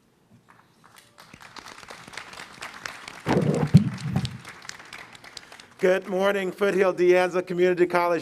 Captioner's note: applause